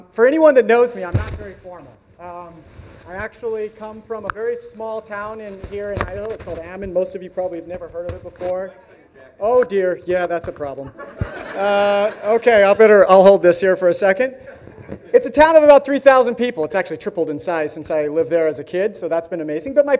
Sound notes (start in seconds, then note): 10.8 audience laughs